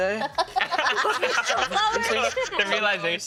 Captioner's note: others laughing